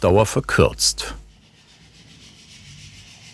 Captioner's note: quiet scraping